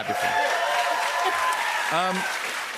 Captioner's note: cheers and applause